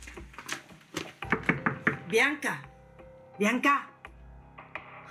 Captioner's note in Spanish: Toques en la puerta